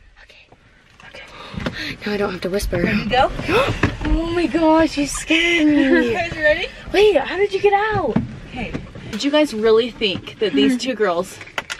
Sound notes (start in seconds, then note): 3.4 gasps